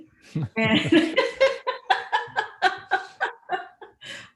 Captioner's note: laughs